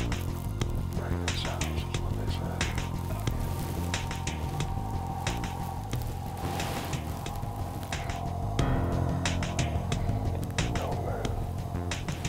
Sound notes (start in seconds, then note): 2.4 whispering